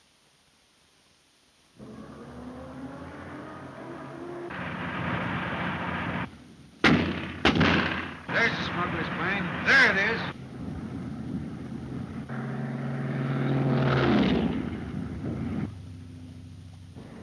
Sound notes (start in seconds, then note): 1.8 engine revving; 6.8 gun firing; 11.8 engine revving